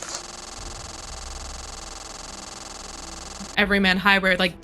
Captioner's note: Slenderman static